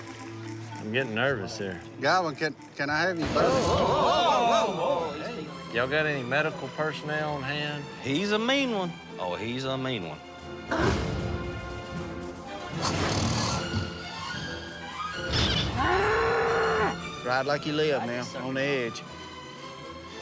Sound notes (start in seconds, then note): 15.2 squeaking; 15.4 bull bellowing